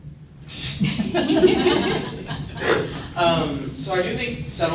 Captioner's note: laughter